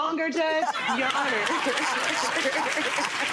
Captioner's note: Lynn laughing